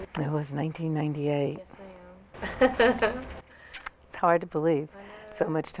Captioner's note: laughs